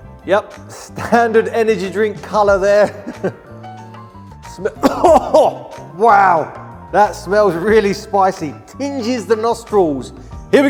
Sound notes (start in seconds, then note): 4.7 coughing